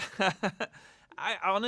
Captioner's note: laughter